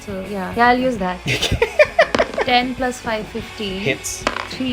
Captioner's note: laughter